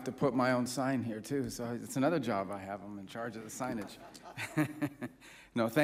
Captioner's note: laughter